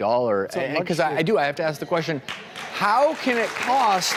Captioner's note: audience applause